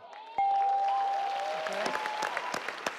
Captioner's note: scoreboard dings; audience cheers; claps